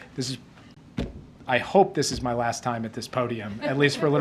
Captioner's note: laughter